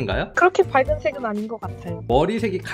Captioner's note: voiceover